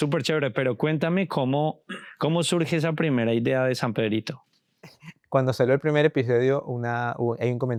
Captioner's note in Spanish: carraspeo